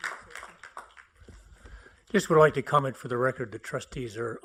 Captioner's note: applause